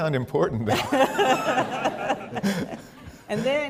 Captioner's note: laughter